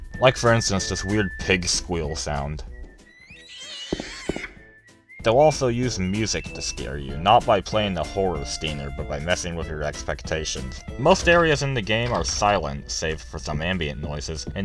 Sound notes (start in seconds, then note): 3.0 squeal